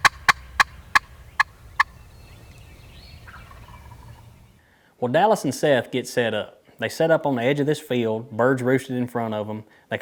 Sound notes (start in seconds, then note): 3.5 turkey gobbles